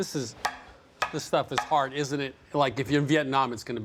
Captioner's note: tapping